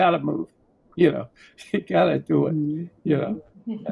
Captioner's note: chuckles